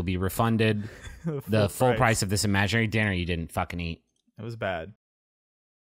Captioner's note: laughing, interrupting